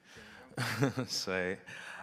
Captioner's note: laughs